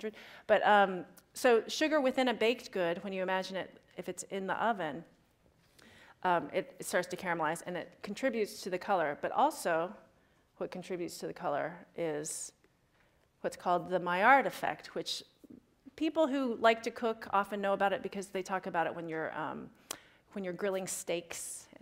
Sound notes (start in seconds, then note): none